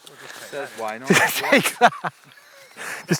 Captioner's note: laughs